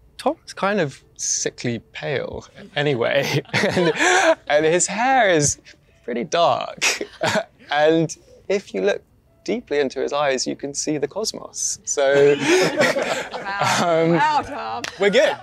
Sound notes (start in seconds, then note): 12.1 all laughing